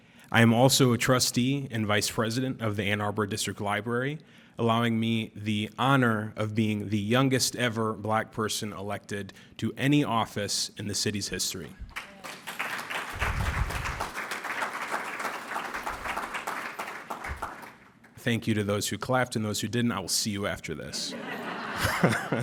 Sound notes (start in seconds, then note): 14.8 applause